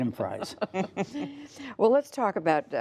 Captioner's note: laughter